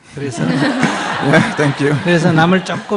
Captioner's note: audience laughter